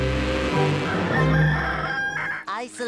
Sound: rooster crowing

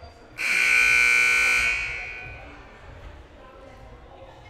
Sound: loud buzzer blaring

